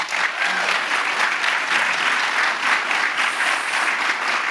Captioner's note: audience applauding